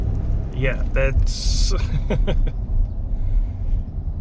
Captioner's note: laughing